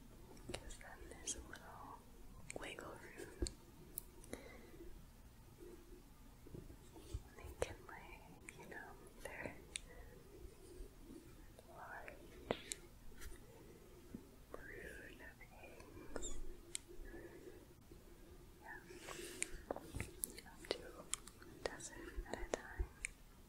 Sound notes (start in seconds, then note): 3.7 gentle shuffling; 16.3 gentle shuffling